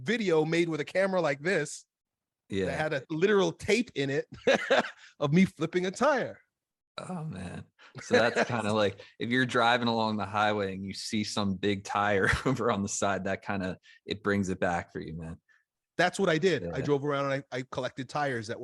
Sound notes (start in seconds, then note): 4.4 laughs; 8.0 laughs